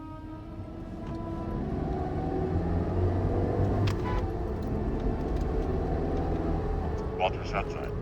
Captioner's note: pensive music; engine roaring